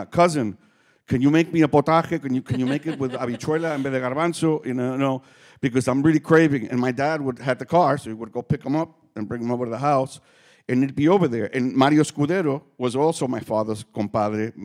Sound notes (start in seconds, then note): 0.2 speaking Spanish; 3.9 speaking faintly